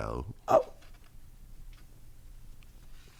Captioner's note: gasps